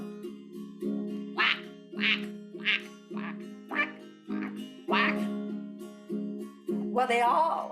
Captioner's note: quacking